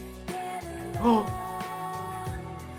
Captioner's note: gasp